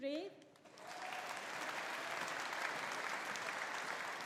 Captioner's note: audience applauding